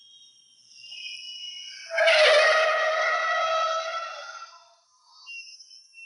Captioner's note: siren blaring; tires squealing